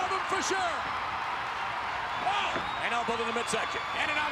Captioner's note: spectators cheering